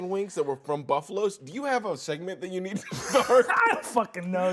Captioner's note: laughs